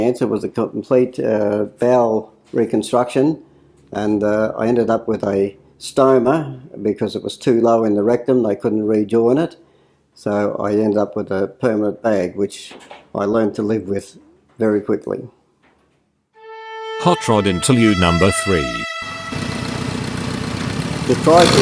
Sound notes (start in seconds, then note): 19.0 motorbike noises